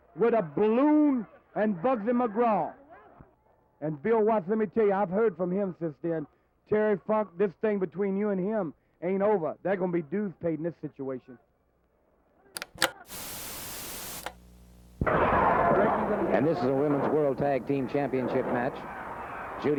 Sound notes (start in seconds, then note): 12.5 television clicks; 12.6 static crackling; 15.0 crowd cheering